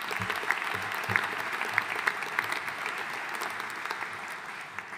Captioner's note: audience applauding